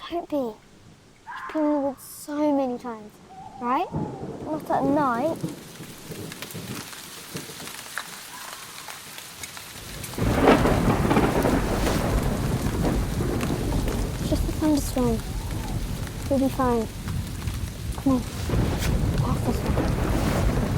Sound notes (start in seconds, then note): 5.5 rain pattering; 5.5 thunder rumbling; 10.9 thunder crashing